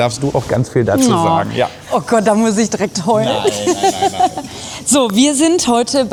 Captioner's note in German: gelächter